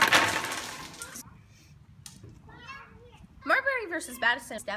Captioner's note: kids in background